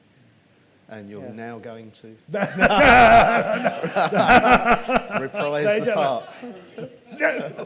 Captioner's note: laughs